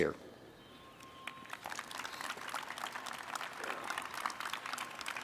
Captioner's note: audience applauds